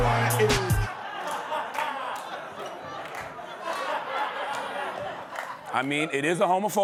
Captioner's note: laughter